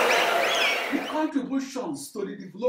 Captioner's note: wild applause and cheering for 22 seconds